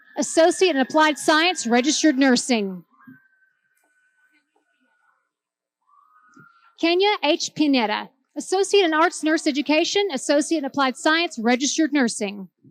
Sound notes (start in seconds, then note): none